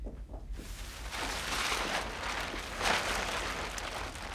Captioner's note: tarp rustles